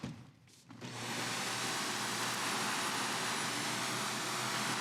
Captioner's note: vacuum whirring